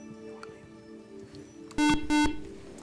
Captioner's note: buzzer